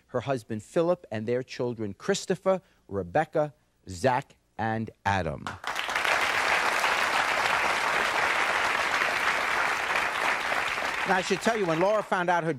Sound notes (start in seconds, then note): 5.6 audience applauding